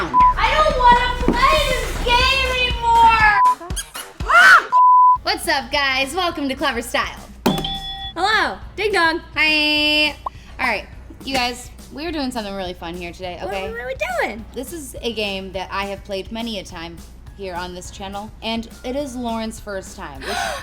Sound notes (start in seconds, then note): 3.2 beep; 3.7 squeak; 4.2 screams; 4.7 beep; 7.5 buzzer rings; 20.2 gasps